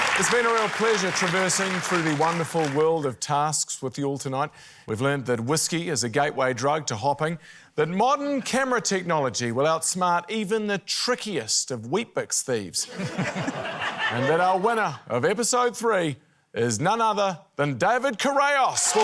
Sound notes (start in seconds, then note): 12.8 laughter